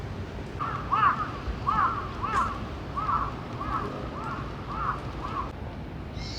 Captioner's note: crow sounds coming from somewhere